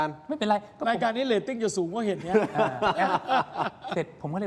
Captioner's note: laughs